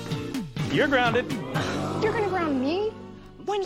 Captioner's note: audience: Oooooo!